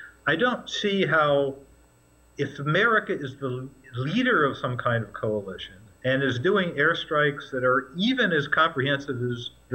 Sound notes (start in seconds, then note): 2.4 mixed voices